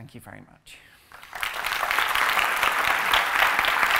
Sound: applause

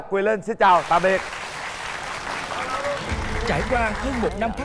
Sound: applause

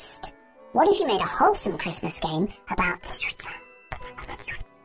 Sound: whispering

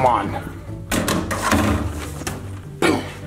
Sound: basketball clanging

